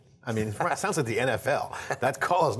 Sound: laughter

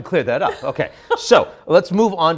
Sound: laughs

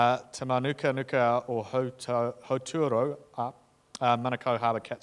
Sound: speaking in foreign language

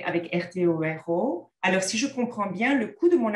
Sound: content in French

